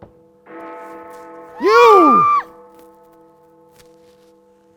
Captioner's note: Lucy screams